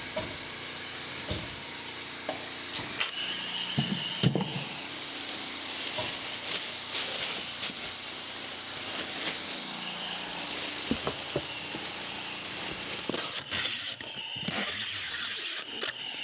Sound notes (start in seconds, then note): 4.9 paper rustling; 13.5 tape ripping